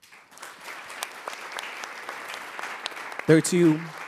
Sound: audience clapping

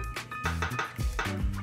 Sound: tap Tap Tap

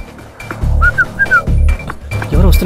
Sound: whistles

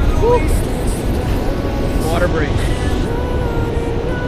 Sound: sigh

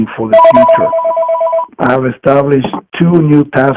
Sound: phone ringing

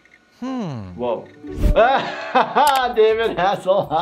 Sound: laughs

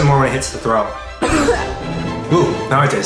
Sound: coughing

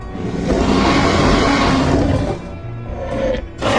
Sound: howls

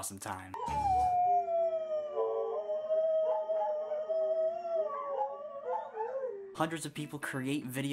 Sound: howling!

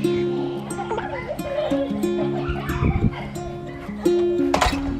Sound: kids laughing; happy music

